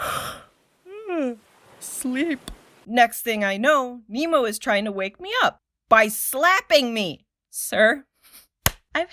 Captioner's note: yawn